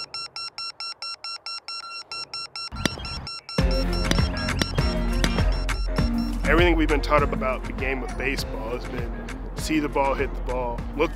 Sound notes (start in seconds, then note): 0.0 ball beeps; 2.7 upbeat music plays; 3.7 bat hits